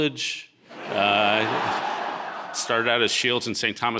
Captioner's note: audience laughing